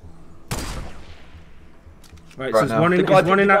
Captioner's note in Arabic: طلقات نارية